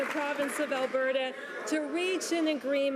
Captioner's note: some Applause